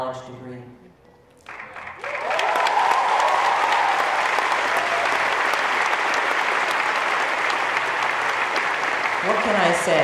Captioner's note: cheers and applause